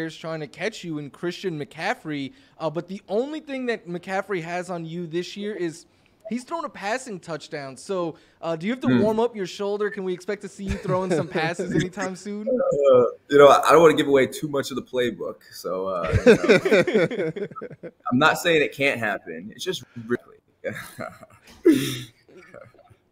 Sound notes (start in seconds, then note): 15.9 laughs; 21.9 laughs